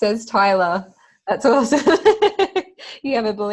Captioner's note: laughing